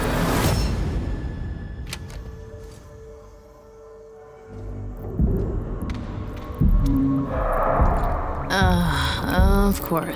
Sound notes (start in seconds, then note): 7.0 eerie groans